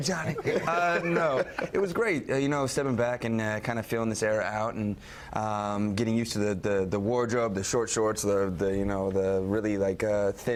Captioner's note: laughter